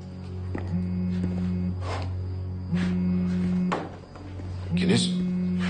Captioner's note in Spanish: Vibra el teléfono